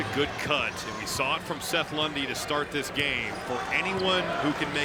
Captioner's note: cheering